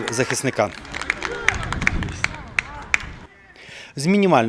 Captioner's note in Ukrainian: оплески